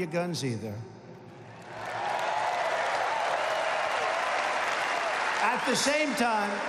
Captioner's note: applause